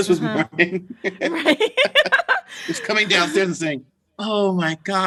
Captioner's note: laughter